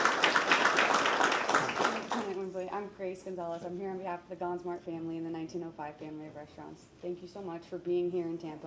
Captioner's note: applause